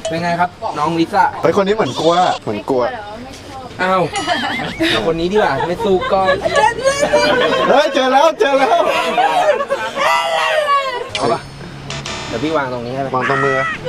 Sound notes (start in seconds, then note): 4.3 chuckles